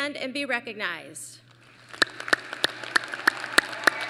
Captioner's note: applause